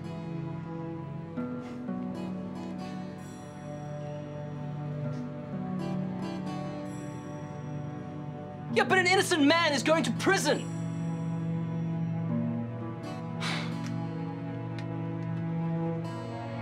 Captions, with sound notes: Yeah, but an innocent man is going to prison! (sighs)